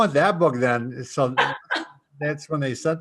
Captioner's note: laughs